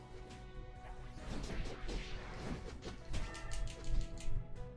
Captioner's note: fighting sounds